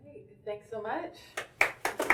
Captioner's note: clapping